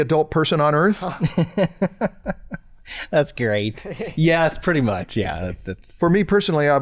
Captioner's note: chuckles